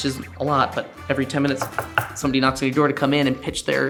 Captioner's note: hand knocking